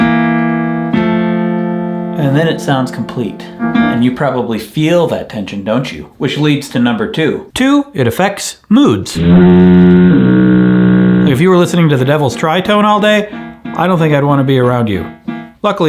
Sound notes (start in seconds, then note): 0.0 plays chords; 9.2 foghorn blowing